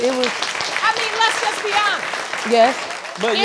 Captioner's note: audience clapping